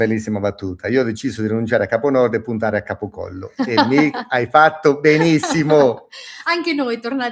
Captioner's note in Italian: risate